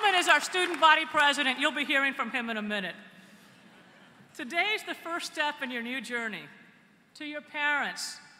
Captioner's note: applause